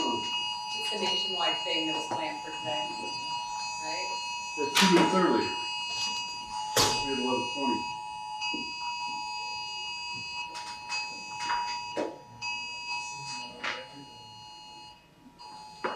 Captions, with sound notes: It's a nationwide thing that was planned for today, right? For two weeks earlier. We had a lot of 20. [BELL RINGS]